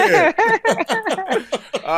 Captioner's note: laughter